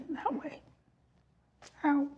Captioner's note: voice breaking